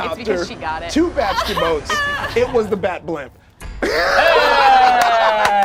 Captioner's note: group cheers; laughs